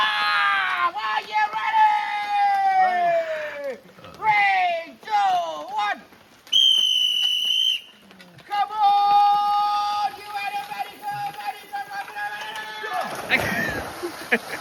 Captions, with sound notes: (yelling) Are you ready? Ready. Three, two, one. (whistle blowing) Come on, you and everybody, go, buddy. Come on, come on, come on. (laughing)